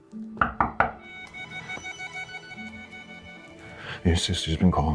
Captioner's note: knuckles rapping